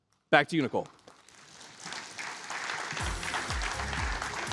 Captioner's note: applause